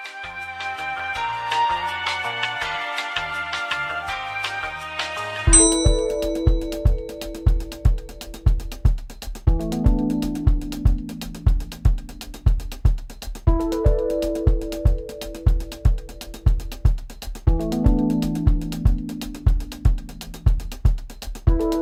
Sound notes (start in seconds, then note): 0.2 elevator music; 5.5 upbeat music; 5.5 elevator ding